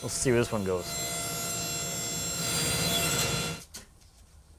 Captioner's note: sawing